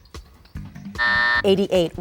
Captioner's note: buzzer sounds